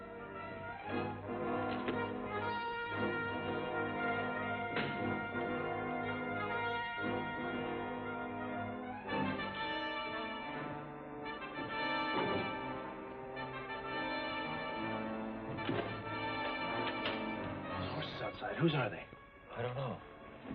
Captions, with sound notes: [ THUD ] [ INTRIGUING MUSIC ] [ DOOR CLICKING ] There are horses outside, whose are they? I don't know.